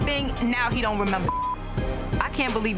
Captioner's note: beep